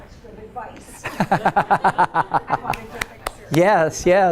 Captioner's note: laughs